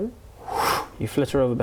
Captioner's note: whoosh